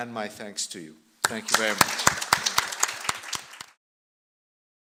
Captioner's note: applause